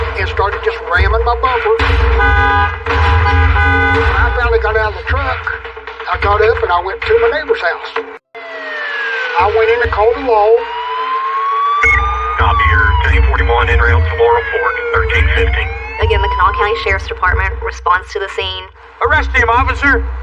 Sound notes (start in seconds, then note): 8.0 police sirens